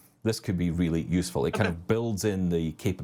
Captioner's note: chuckling